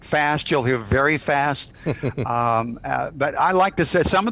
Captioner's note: chuckles